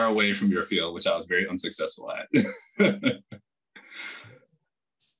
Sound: laughs

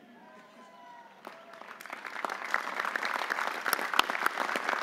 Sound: audience applauding

